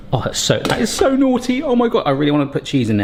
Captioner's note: lid bangs